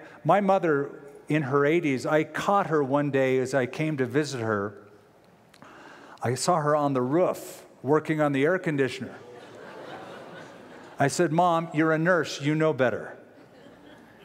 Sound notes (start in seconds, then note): 9.2 laughter